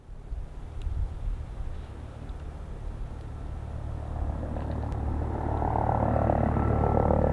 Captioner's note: helicopter approaching from the distance